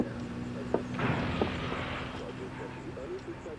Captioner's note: crashing sound